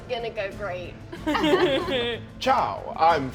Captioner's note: Ally laughs